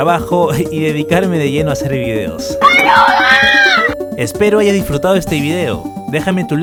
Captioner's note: haha